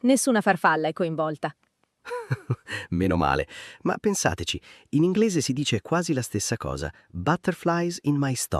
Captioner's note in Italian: risate